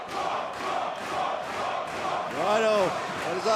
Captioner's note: fans chanting